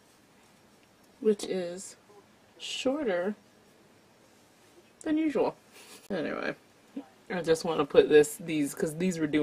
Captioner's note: chuckles